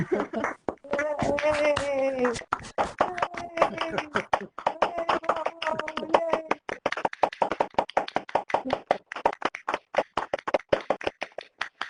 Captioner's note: applause